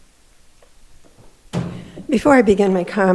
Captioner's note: chair thudding